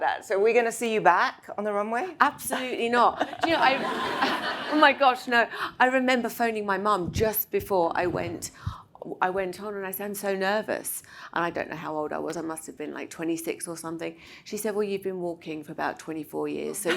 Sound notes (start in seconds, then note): 2.5 Anna laughs; 3.2 audience laughs